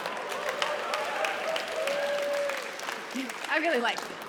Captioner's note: audience laughs and applauds